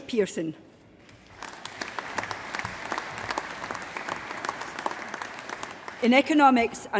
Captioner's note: applause